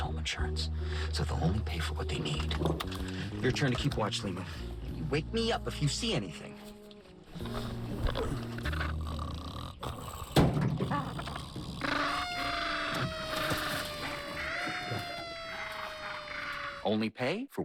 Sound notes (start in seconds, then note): 9.5 snoring; 11.8 loud squawking and siren blaring